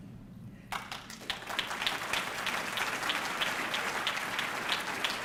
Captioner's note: audience clapping